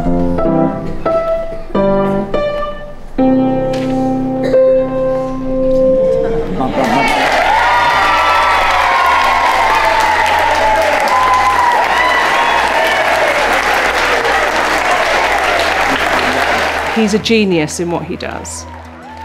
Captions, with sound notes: (audience applauding) - He's a genius in what he does.